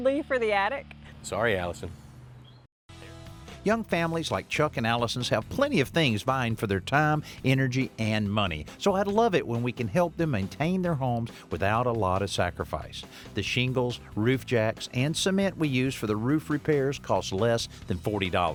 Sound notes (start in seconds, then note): none